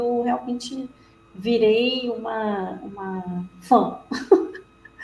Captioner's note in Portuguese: risos